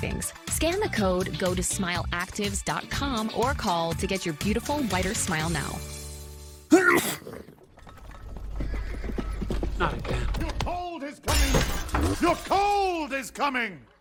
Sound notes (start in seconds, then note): 6.7 sneeze; 9.3 hooves approaching